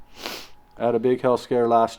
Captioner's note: sniffing